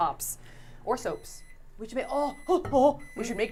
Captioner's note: microwave beeping